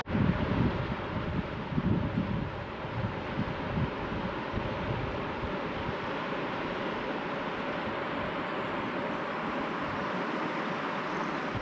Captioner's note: water rushing